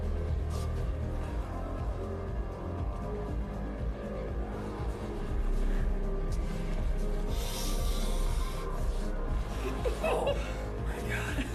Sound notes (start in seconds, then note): 7.4 sniffare; 9.3 groans